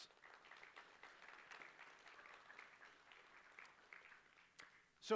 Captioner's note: applause